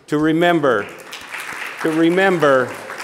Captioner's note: audience applauding